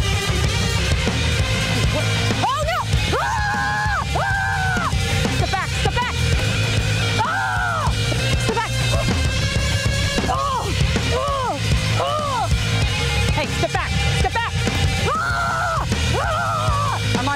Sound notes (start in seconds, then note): 3.0 screaming